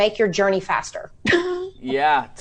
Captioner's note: laughs